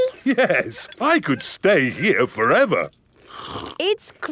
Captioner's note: slurps